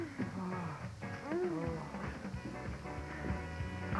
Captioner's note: moaning